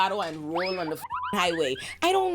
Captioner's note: beep